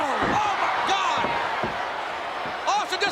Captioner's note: audience cheers